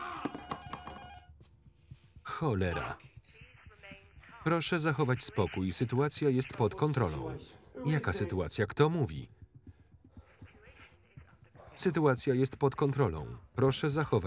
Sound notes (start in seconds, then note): 3.3 intercom; 10.2 intercom voice